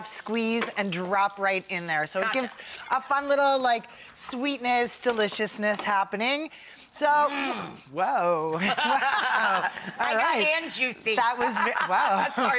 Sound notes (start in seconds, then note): 7.3 Rachael growls; 8.6 laughing